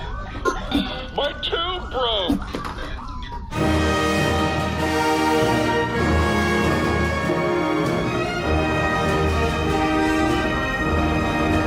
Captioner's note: buzz